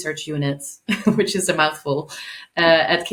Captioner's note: chuckling